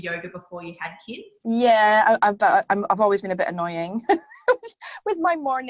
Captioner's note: laughs